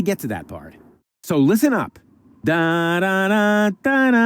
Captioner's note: hums